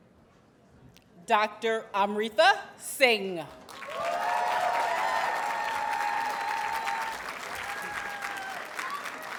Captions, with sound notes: Dr. Amrita Singh. [Audience cheers and applauds]